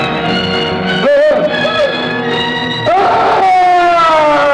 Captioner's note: screaming